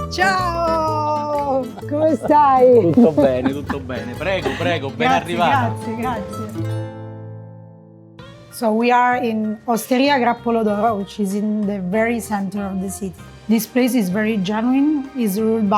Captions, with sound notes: - Ciao! [both speaking in foreign language] - So we are in Hosteria Grappolo D'Oro. It's in the very center of the city. This place is very genuine, is ruled